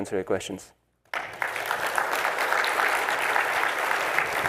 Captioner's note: applause